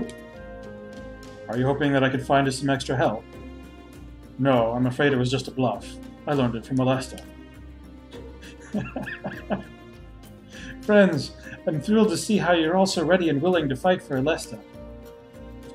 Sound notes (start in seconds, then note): 8.2 laughs